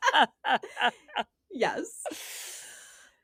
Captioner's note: both Laughing